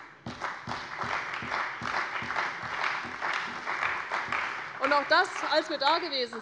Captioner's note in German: Beifall bei der CDU und dem BÜNDNIS 90/DIE GRÜNEN